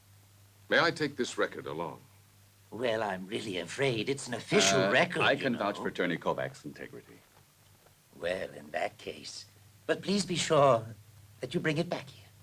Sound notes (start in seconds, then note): none